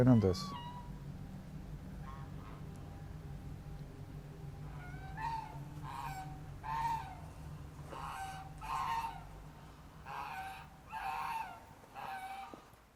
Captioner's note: geese noises in the background